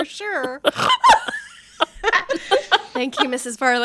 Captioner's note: laughing